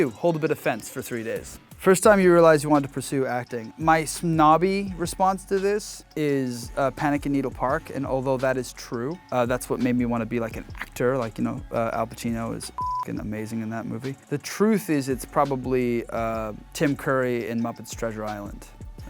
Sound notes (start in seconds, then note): 12.7 beep